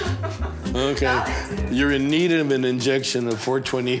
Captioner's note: woman laughing